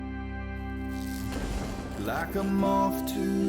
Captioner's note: electricity crackling